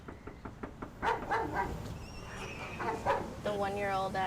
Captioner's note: knocks on door; dog barks